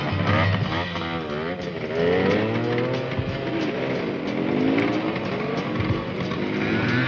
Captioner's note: motorcycles revving